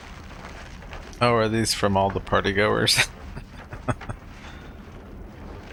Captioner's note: chuckling